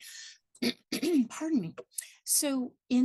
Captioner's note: clears throat